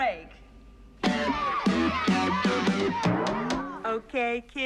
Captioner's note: Пиздюки орут